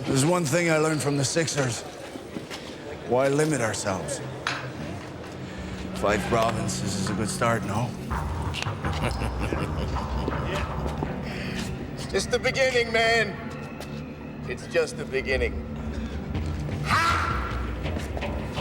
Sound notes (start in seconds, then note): 8.7 David chuckles; 9.0 dramatic music